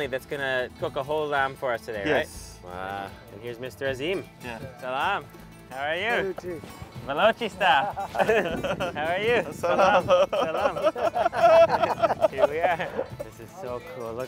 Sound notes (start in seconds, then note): 6.4 speaks in foreign language; 10.5 group laughs